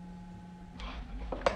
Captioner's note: gasping